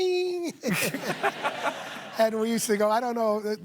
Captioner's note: laughter